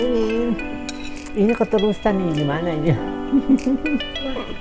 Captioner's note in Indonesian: tertawa